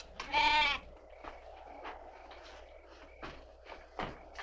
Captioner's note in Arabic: نباح الماعز